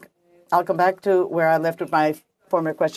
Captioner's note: speaking french